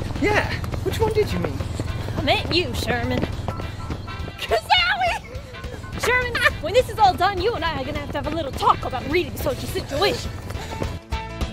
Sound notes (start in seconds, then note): 4.6 Sherman squealing; 11.2 upbeat instrumental music